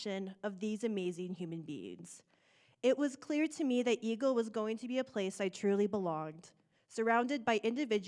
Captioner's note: none